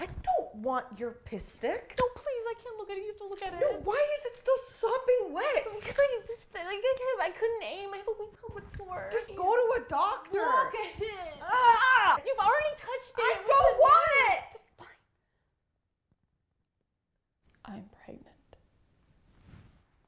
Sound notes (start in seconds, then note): 11.4 woman groaning